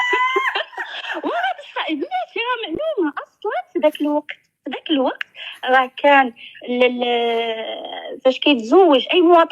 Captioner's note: laughs